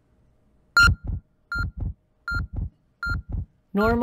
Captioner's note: beeping